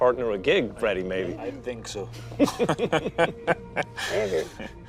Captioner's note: laughs